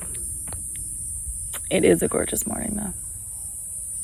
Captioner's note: foot taps lightly; smacks lip